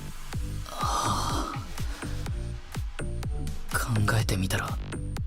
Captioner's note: sigh